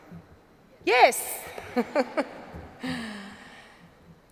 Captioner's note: laughs